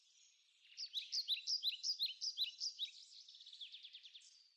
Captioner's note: birds chirping